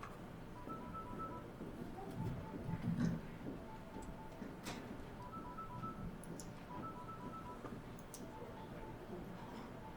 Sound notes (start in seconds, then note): 2.1 footsteps faintly thudding; 4.9 phone ringing continues